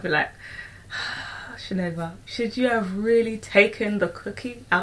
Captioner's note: sighs